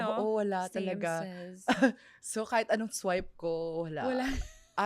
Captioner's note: laughs